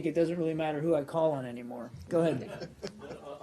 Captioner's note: laughter